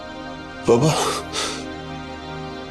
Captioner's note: sighs